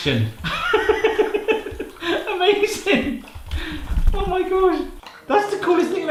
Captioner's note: laughs